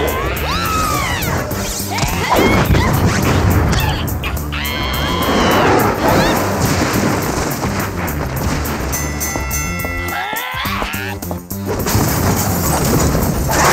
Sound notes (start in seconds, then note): 2.6 screaming and fighting; 8.9 bell dings